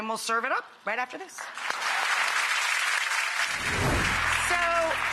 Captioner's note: audience applauding